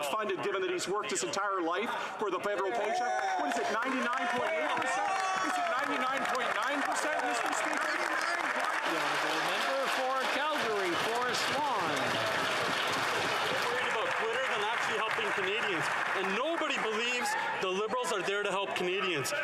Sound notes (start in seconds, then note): 11.3 applause